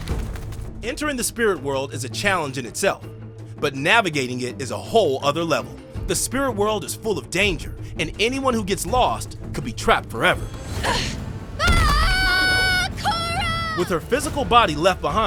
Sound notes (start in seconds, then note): 11.6 screaming